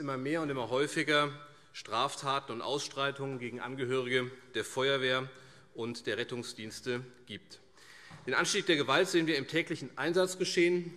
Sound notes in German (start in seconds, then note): none